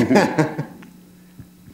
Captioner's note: laughter